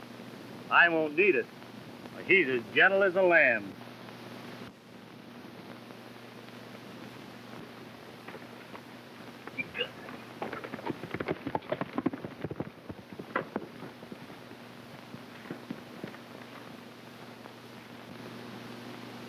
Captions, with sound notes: - I won't need it. He's as gentle as a lamb. (hooves clopping)